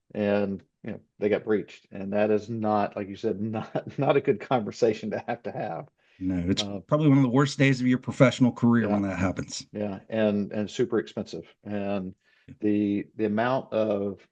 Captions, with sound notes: and, you know, they got breached, and that is not, like you said, not, [laughs] not a good conversation to have to have. No. Uh- It's probably one of the worst days of your professional career- Yeah... when that happens. Yeah. And, and super expensive. And the, the amount of,